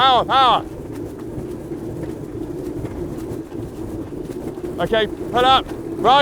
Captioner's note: aircraft whirring